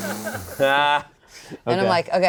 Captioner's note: laughing; all laughing